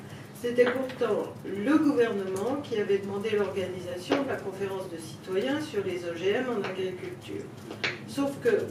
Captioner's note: French